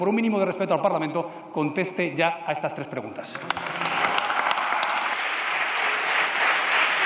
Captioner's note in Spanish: Aplausos